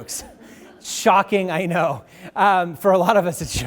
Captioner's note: audience laughing; audience laughs